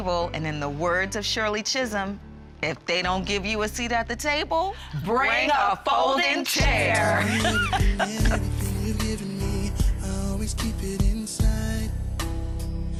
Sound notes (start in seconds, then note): 6.4 laughing